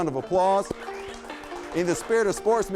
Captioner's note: audience applauding